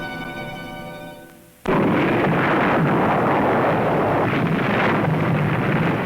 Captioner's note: blasting